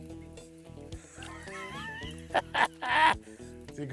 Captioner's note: cackling